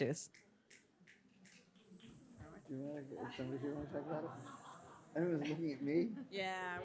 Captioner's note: panelists chatting amongst themselves